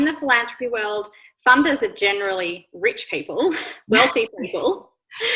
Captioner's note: laughs